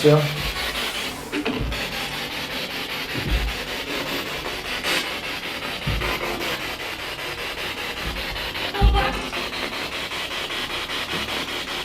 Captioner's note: radio noise from the spirit box